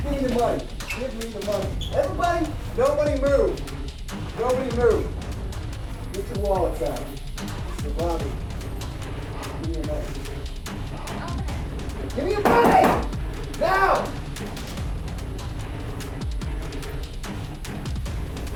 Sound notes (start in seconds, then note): 12.4 bangs on counter; 14.7 suspenseful music